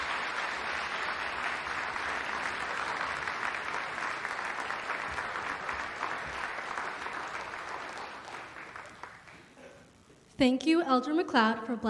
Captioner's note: applause